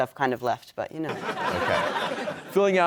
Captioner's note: audience laughs